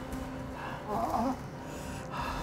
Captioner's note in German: Stöhnen